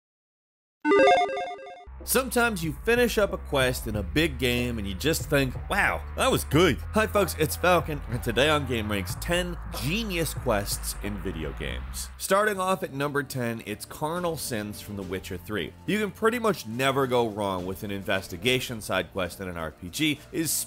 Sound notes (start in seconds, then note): 0.8 logo beeping